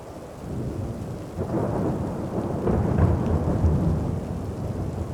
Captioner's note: thunder rumbling